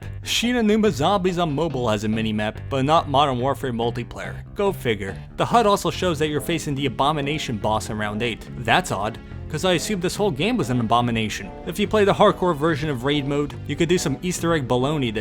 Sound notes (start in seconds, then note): none